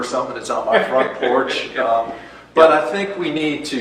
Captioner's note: laughs